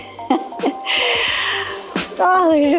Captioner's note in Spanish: risas